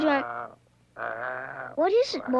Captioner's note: growling